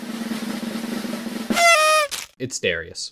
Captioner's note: explosion party noise